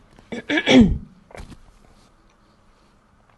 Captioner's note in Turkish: boğazını temizler